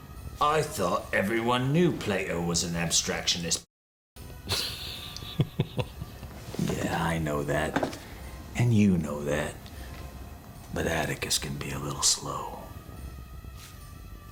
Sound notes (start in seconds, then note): 4.4 chuckles